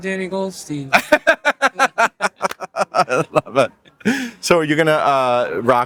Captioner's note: laughs